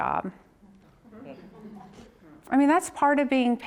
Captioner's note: audience chatters